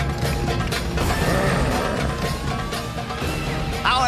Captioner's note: growling